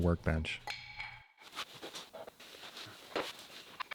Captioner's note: saddle clanking